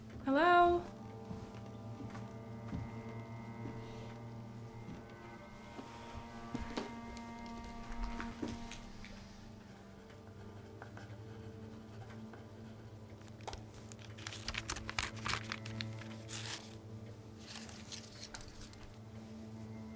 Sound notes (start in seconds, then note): 4.3 somber music continues; 9.9 pen scratching; 13.4 paper ripping